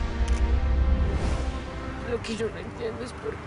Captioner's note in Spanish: Clic de cámara